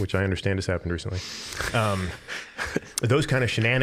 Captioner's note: all chuckling